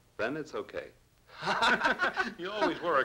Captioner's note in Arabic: جاري ومايك يضحكان